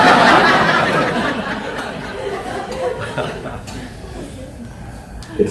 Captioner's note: audience laughs